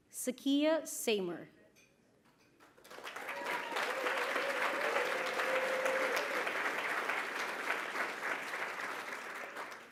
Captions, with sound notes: Zakiya Seymour. [applause]